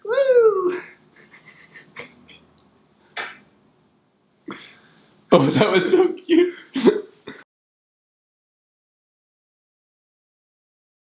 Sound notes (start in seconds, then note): 3.1 kissing sound